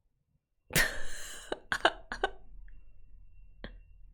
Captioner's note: laughs